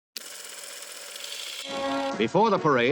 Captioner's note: reel whirs